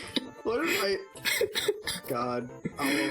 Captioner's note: laughs; chuckles